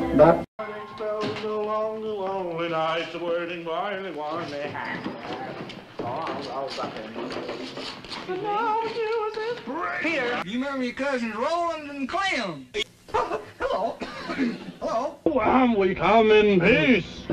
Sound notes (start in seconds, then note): 14.0 clears throat